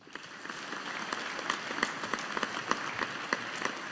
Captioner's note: audience applauding